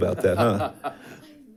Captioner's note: board member laughs